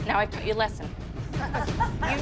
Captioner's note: laughter